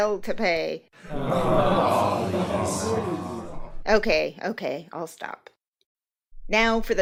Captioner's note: audience groan